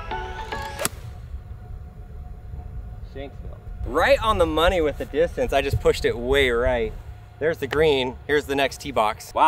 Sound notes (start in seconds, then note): 0.7 golf club pings